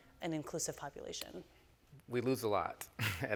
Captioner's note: chuckles